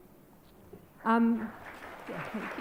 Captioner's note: audience applauds